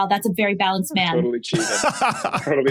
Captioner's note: laughs